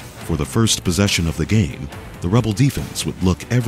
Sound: voiceover

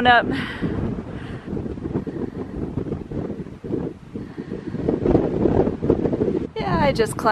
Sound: wind

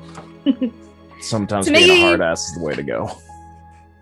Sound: chuckles

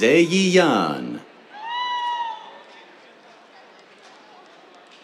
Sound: cheers

